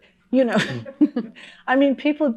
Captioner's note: chuckling